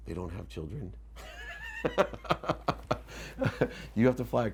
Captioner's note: laughs